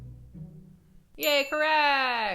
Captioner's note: bell dings